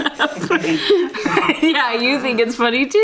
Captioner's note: all laughing; laughs